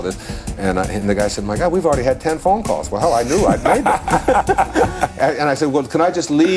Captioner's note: laughter